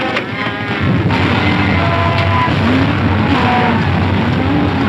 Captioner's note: cows stampeding